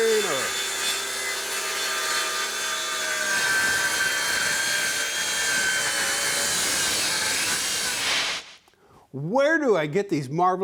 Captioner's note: saw whirring